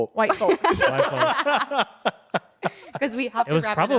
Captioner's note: everyone laughs